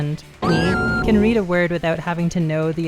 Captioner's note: ominous noise; woman screaming